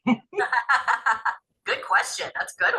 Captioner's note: laughter